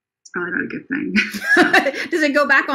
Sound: laughs

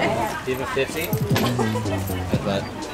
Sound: laughter

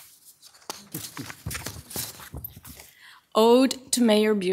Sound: pages scrapping

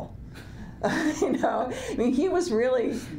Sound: laughs

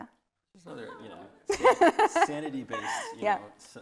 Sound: laughing

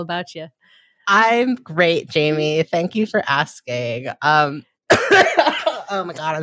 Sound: coughs

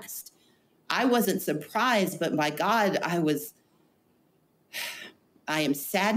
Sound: sighs

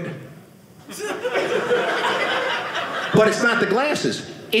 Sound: audience laughing

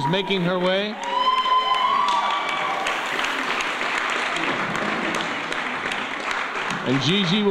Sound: applause

